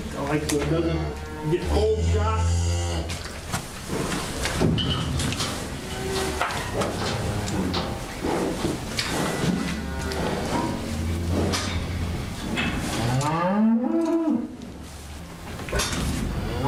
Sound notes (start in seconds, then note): 2.7 cattle sounds